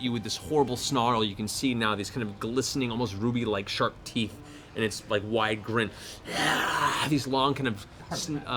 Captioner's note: snarl